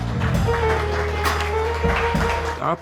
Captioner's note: audience claps